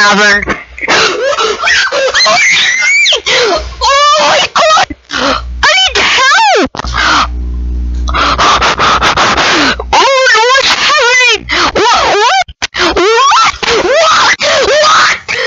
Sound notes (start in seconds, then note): 3.3 gasp; 4.8 sniff; 6.9 gasp; 8.0 hyperventilating